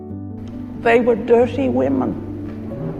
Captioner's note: voiceover